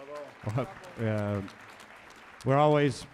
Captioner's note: audience applauds